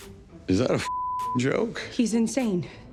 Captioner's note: beep